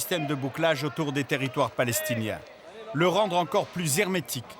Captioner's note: French spoken audio